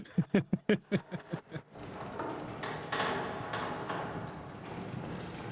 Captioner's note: laughter